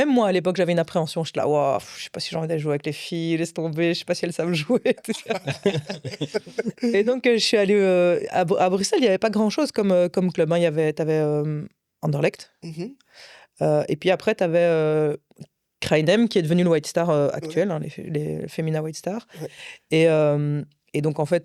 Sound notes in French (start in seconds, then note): 4.6 rires